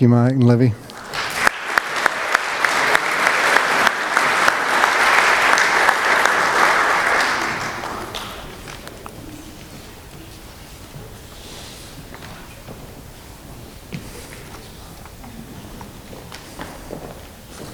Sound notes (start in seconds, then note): 0.8 applause